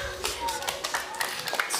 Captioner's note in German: Applaus